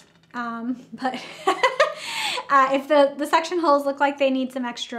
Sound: laughs

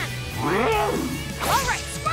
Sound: Charizard roars

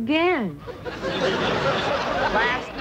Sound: audience laughter

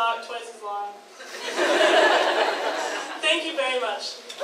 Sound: audience laughs

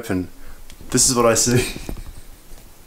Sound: laughs

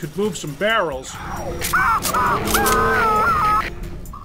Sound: marine screaming to death

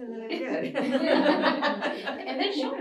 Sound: laughter

